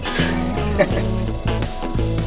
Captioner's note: laughing